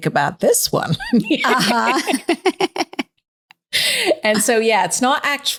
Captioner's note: laughing